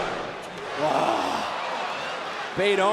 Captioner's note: Vic sighs